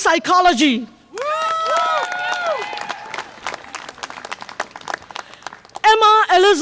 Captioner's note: audience applause and cheer